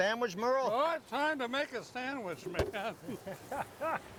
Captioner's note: laughs